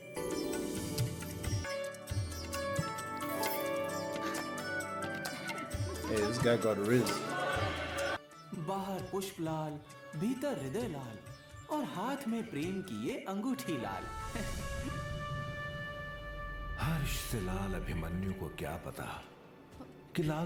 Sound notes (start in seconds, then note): 5.1 giggling; 5.2 laughs lightly